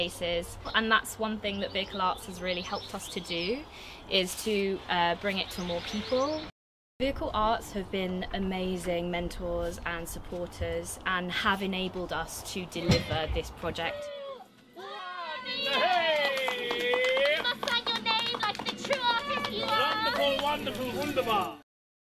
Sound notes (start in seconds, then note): 15.6 clapping